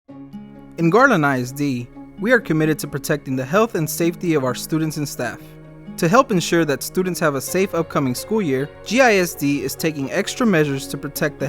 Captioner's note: male voice reading the text on screen